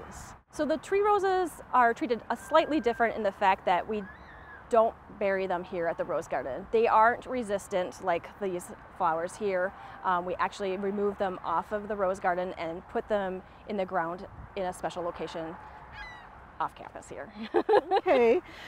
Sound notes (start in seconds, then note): 17.4 laughs